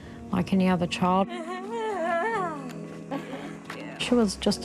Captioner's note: chuckles